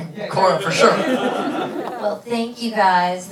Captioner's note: laughing